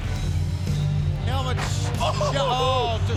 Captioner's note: laughing